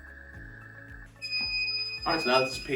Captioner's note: machine beeping